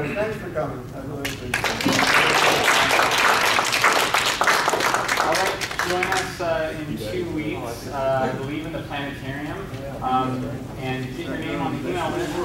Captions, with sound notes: Anyway, thanks for coming, I really appreciate it. (audience applauding) >>Alright class, in two weeks we're leaving the planetarium, and get your name on the email list